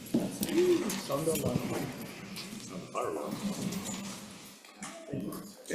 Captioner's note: committee members chatting